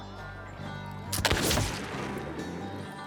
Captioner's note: gunshot